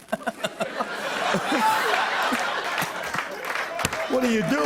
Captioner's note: laughter